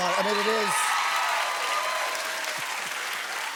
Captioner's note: cheers and applause